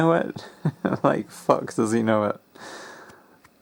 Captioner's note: sniggers